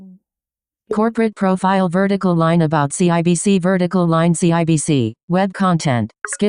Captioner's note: screen reader starts announcing again